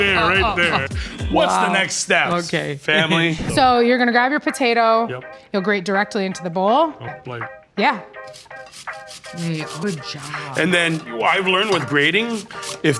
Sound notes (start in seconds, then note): 8.1 lilting music; 8.2 potato scratching